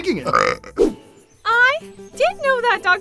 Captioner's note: burp